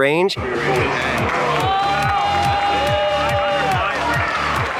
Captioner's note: crowd cheering